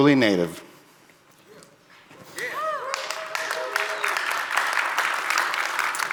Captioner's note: audience applauding